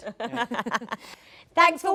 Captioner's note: everyone laughs